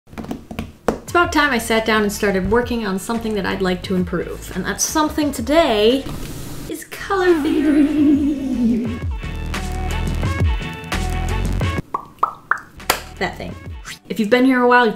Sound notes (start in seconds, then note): 0.0 drums fingers on sketchbook